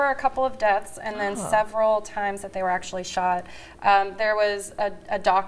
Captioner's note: laughter